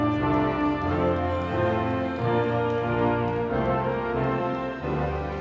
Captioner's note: audience cheering